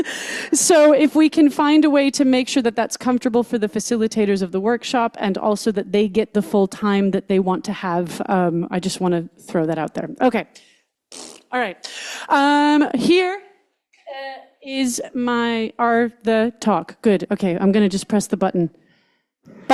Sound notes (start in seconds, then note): 11.1 blows raspberries